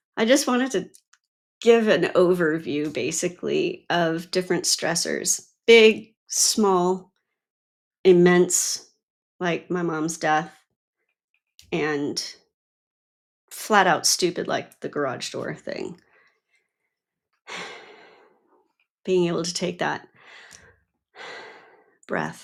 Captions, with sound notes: I just wanted to give an overview basically of different stressors, big, small, immense, like my mom's death, and flat out stupid like the garage door thing. (sighs) Being able to take that breath.